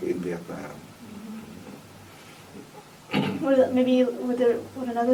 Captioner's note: clears throat